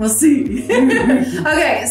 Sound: laughs

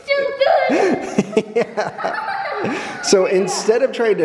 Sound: laughing

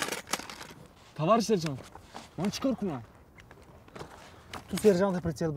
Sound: in Tajik

